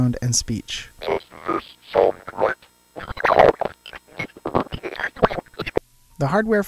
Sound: computer voice

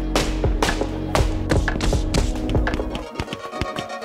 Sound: fists thudding

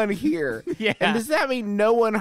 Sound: laughing

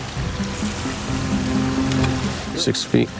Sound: water splashes; water splashing; reel clicking

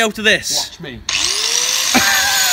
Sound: angle grinder starts up; laughter

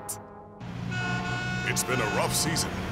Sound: cars honking

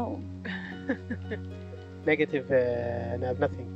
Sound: woman laughing

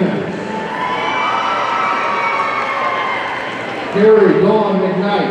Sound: audience cheering

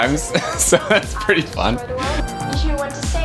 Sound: laughs

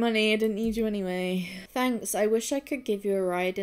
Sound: sighs

